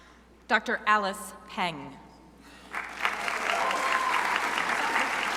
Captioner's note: crowd applauding